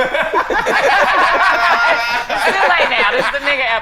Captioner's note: all laughing